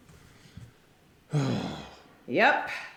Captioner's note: ray sighs